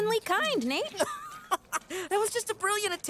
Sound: chuckles

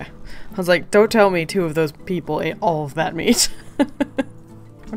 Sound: laughs

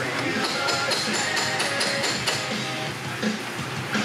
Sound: hammer clanging

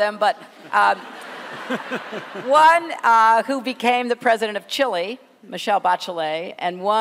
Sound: laughter

